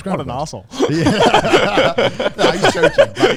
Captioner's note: laughs loudly